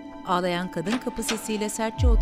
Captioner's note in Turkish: Kapı açılma sesi; Müzik - Gerilim